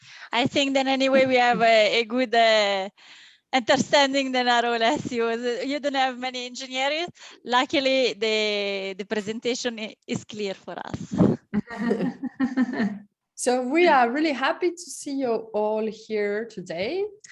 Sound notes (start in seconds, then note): 11.5 laughter